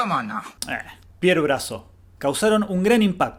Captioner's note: pronounced flatly